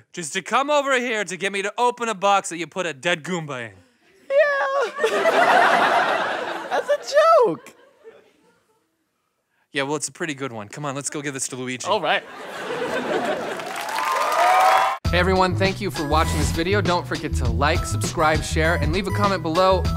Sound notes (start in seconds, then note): 4.6 laughter; 12.5 cheering